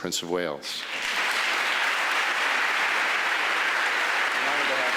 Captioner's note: audience applauding